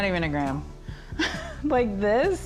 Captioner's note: chuckles